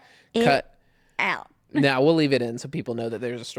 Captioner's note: laughs